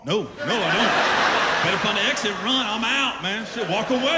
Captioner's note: laughter